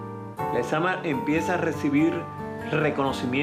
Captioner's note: speaking Spanish